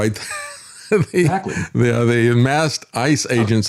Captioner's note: laughs